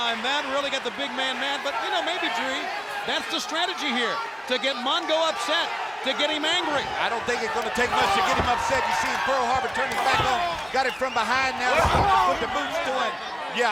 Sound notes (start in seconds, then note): 8.5 blows thudding; 11.3 blows thudding